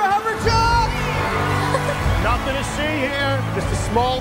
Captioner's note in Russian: хихикает